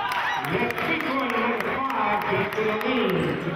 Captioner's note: cheering